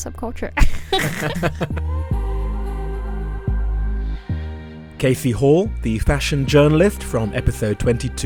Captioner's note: voiceover